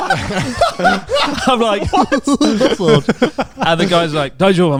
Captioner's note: chuckling; all laughing